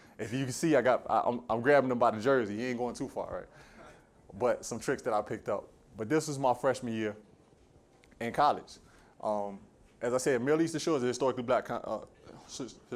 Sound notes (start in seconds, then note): none